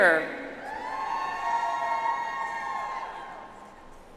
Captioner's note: audience applauds